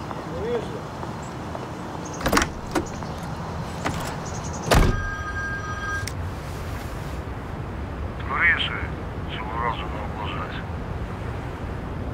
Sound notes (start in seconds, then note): 0.3 speaking in foreign language; 4.6 phone rings; 8.1 speaking in foreign language